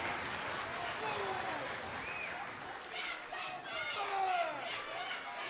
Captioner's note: clapping